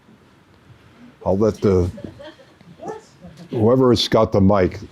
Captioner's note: audience mumbling